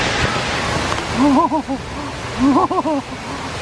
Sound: laughing

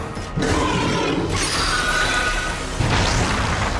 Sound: screeching scream

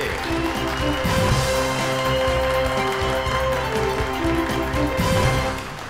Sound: audience clapping; energetic music

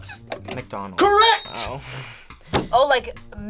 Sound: laughs

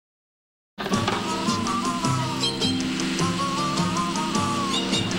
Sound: engine revvin

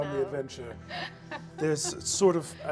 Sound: laughing

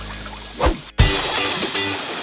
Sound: upbeat music; whooshing

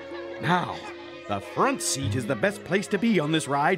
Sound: nervous laughing

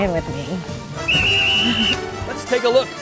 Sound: whistle

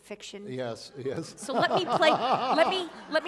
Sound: laughter

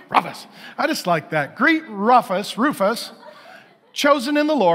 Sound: congregation laughing

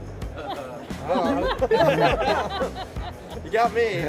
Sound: people giggle

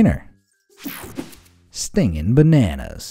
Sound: image whooshing

